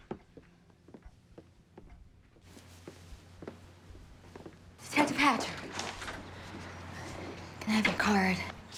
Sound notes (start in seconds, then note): 5.0 door opens